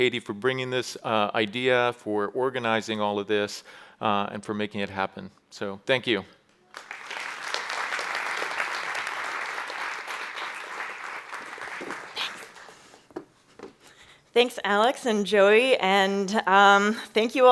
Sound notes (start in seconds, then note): 6.6 applause